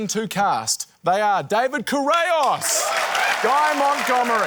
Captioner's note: cheering, applause